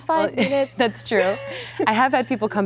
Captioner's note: laughs